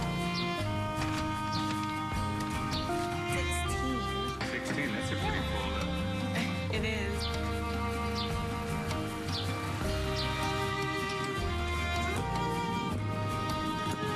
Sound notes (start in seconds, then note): 2.7 birds chirping; 10.7 birds chirping